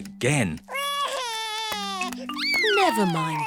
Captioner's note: sobs